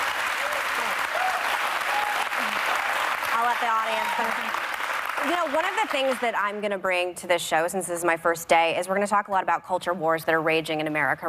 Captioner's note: applause